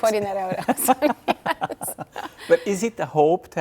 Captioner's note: laughing